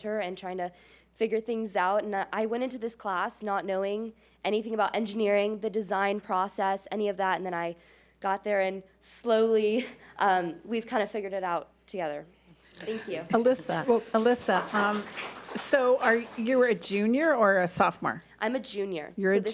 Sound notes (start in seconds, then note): 15.1 audience applauds